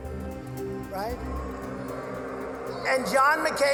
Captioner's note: audience booing